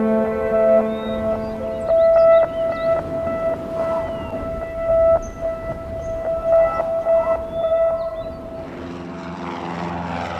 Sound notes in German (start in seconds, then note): 2.3 Brausen des Windes; 8.6 Motorenrattern